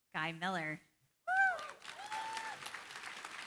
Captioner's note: cheering, applause